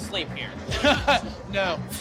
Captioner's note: chuckling